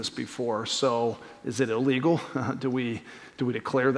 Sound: laughter

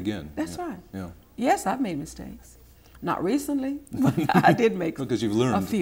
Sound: chuckles

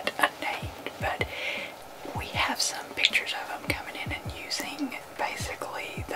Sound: whispering

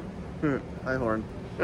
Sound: laugh

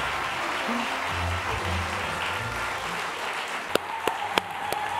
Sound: applause and cheering

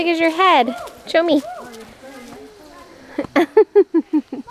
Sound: laughs

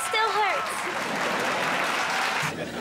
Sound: applauding

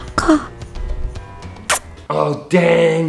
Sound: smooching

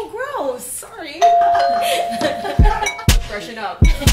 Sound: doorbell

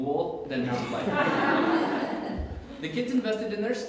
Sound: audience Laughs

